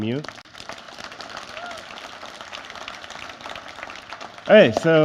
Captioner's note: cheering and Applause